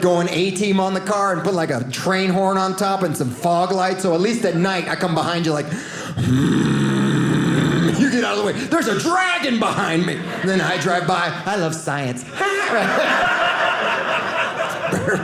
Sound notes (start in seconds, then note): 6.2 deep groaning noise; 12.2 audience laughing